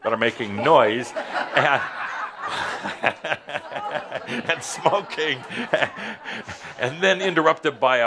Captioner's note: laughter